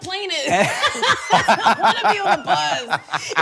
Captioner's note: both laughing